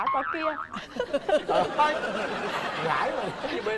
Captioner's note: laughing